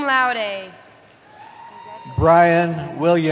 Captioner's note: cheering